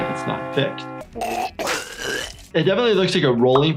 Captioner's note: video game character choking